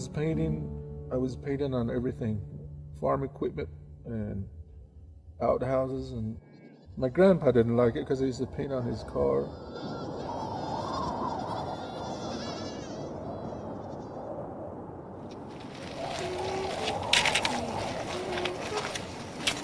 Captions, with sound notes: When I was painting, I was painting on everything, farm equipment and outhouses and my grandpa didn't like it 'cause I used to paint on his car. (wind blowing) (sheep bleating) (girl humming) (wind whistling)